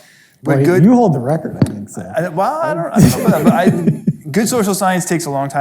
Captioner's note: laughs